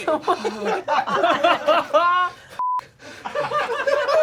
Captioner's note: audience laughing